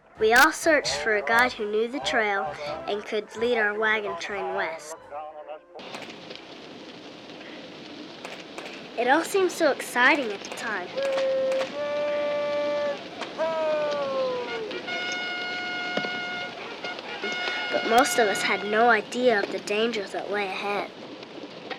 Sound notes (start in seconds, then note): 11.4 shouting; 13.8 trumpet sounding